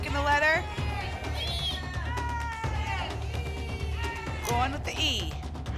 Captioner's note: audience shouting letters